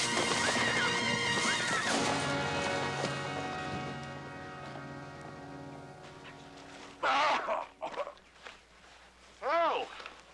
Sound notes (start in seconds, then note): 7.0 groaning